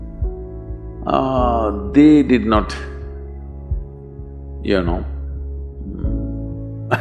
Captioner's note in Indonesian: Tertawa